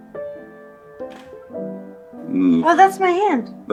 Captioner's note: camera clicks